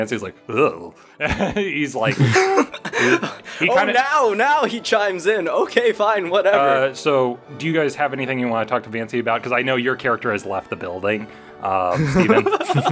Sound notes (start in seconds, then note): 2.0 chuckles